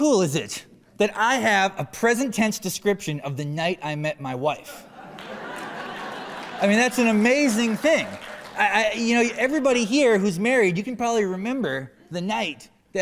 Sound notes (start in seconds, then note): 7.8 laughter